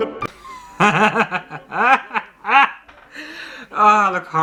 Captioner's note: uncontrollable Laughter